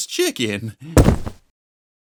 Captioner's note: thud